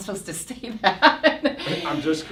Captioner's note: laughs